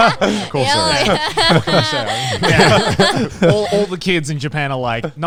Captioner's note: everyone laughing